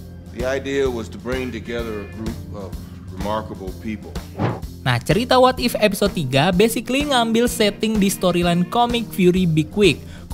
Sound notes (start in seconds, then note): 4.3 transition sound